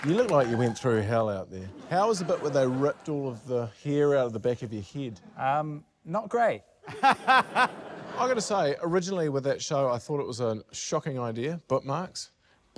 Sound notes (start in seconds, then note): 6.8 laughs